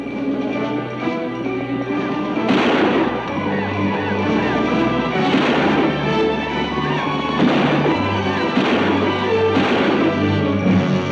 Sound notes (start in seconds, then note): 2.3 exciting music; 2.4 guns bang